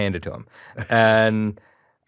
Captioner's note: chuckles